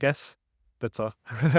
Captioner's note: laughter